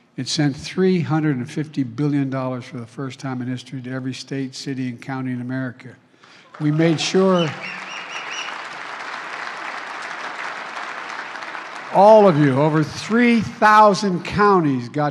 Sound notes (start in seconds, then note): 9.9 applause